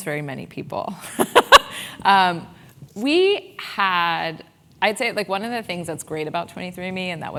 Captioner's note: laugh